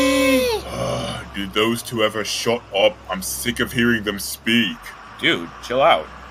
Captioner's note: groans